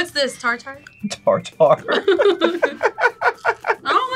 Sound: both laugh

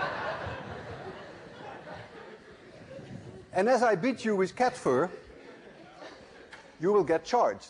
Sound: laughter

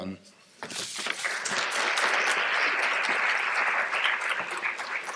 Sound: applause

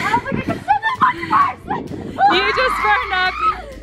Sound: screaming

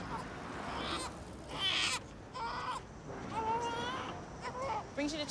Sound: cries

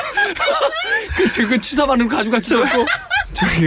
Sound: laughs

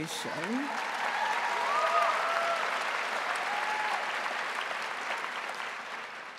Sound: audience cheering and applauding

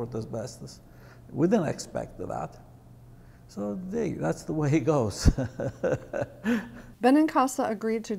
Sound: laughing

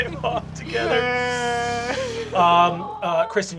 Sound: wails

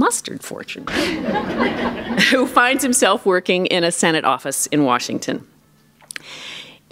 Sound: laughter

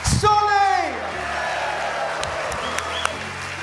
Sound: cheers and applause

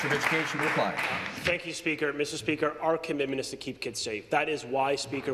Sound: applause

